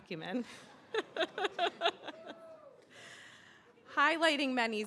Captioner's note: laughing